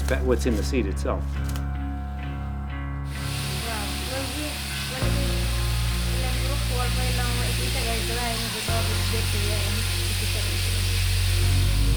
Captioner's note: non-english speech